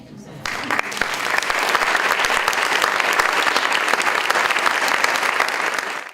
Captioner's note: audience Applause